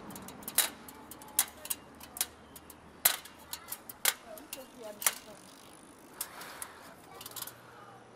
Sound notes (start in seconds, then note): 0.0 metallic clatter; 4.8 quiet bicycle noise